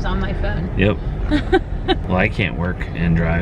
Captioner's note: laughs